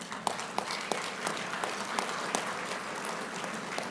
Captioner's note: applauding